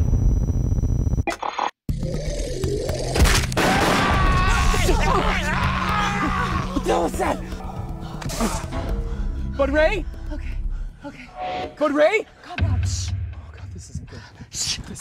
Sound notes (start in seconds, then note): 2.0 animal growling; 3.4 gunshots, ray screaming